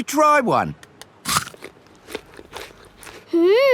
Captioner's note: crunches